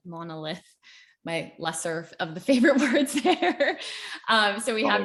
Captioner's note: laughs